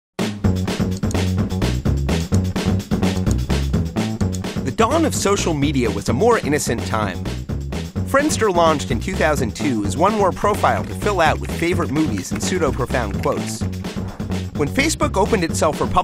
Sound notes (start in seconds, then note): 0.3 upbeat music; 0.9 mouse clicks